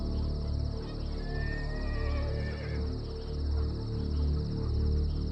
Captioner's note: soft dramatic music continues; horse neighing